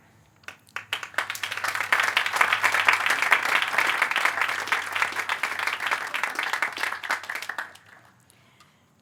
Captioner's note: applause